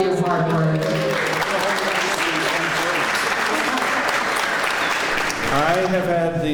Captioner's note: clapping